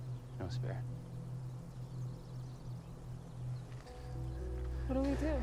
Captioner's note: birds singing; tense music; birds singing; tense music